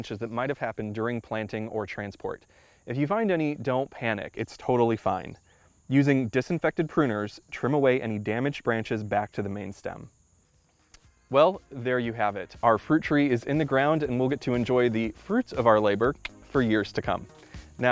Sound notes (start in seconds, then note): 16.2 clicks tongue